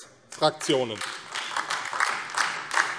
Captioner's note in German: Beifall AfD